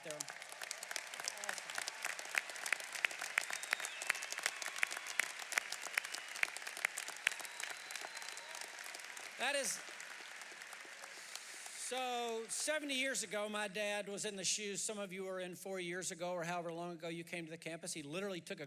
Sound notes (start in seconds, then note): 3.9 applause